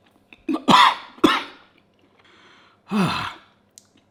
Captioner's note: munching; coughing